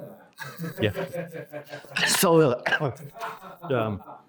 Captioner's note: coughs